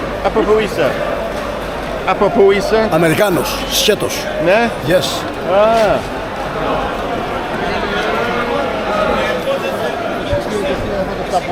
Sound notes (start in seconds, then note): 8.0 crowd chattering